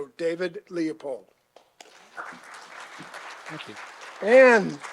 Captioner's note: applause